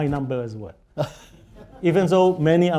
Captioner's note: laughter